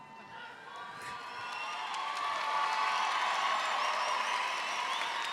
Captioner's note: audience clapping and cheering